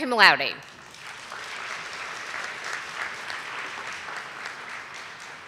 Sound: audience applauding

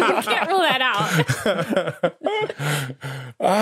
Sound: laughter trails off

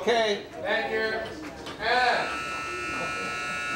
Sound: buzzer

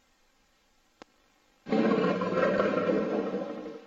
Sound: jaguar roars

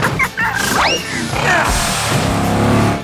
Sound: laughing; grunting

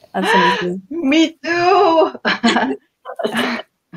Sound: laughs

